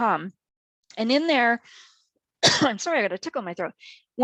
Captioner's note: coughs